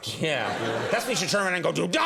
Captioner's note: audience laughs